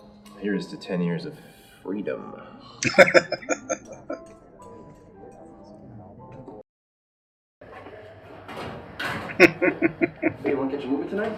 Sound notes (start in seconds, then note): 2.8 laughing; 9.2 chuckling